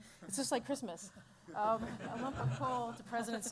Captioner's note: laughter